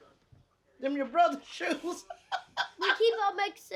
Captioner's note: laughs